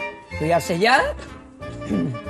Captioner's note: cough